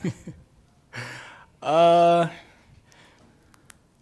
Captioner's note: laughs